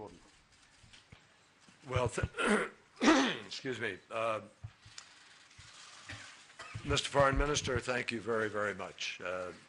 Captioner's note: clears throat